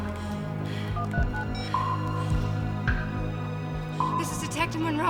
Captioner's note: phone beeping